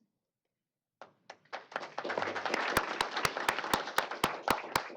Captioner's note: applause